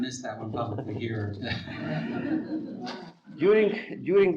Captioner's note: students laughing